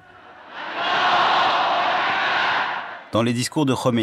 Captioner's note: crowd chanting slogan